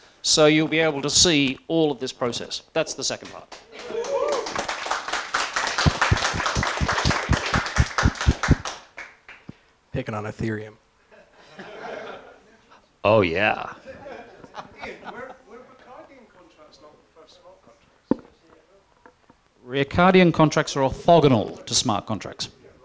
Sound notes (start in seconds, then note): 3.5 applause; 11.0 laughter